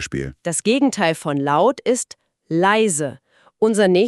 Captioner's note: leise